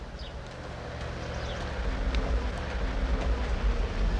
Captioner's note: bus engine humming